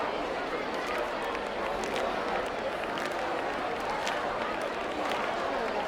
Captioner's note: crowd clapping and chattering indistinctly